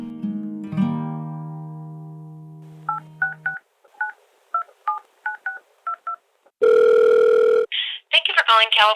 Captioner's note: soundbite of phone dialing and ringing